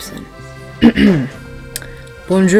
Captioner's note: clears throat again